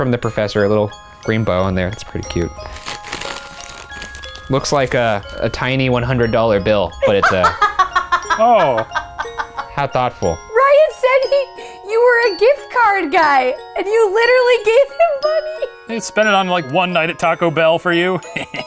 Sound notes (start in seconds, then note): 2.6 rustling; 7.0 laughs